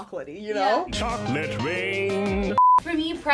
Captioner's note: beep